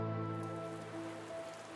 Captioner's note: raining